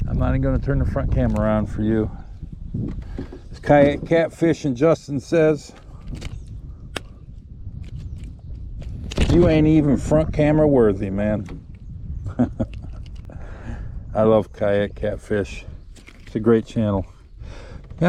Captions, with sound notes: I'm not even gonna turn the front camera on for you. As Kayak Catfish's Justin says, (fish flopping) You ain't even front camera worthy, man. (chuckles) I love Kayak Catfish, it's a great channel.